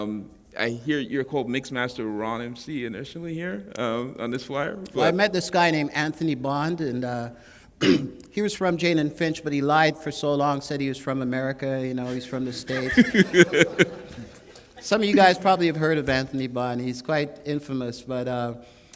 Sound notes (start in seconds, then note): 12.0 laughter